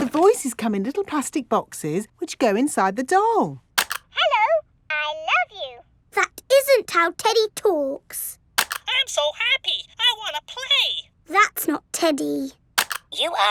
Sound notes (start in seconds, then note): none